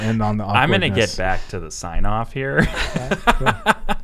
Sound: laughing

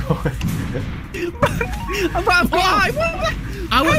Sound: laughter

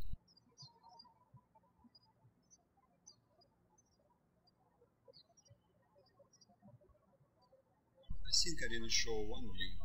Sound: birds chirping

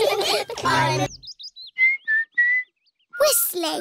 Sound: all laughing; whistling

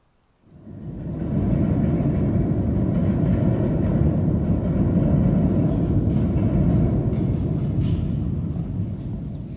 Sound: distant rumblings of a steam train

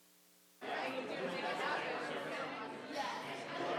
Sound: crowd chattering

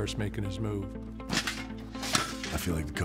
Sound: metal scraping

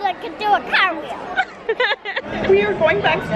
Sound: laughs

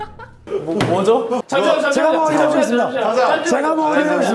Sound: panicking

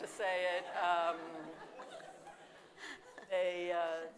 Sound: audience laughing

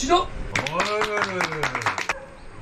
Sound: clap clap clap clap

